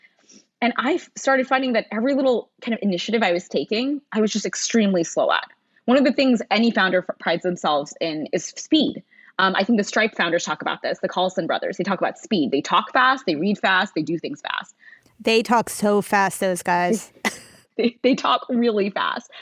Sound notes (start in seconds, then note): 16.4 laughing; 16.4 laughs